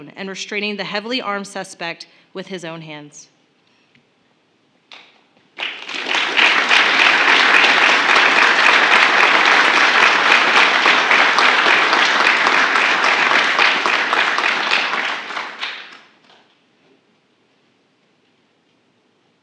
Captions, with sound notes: and restraining the heavily armed suspect with his own hands. (Applause.)